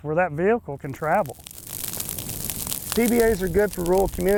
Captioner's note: fire crackling